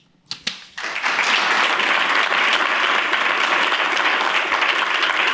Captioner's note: applause